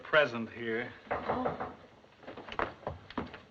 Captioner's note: knock at door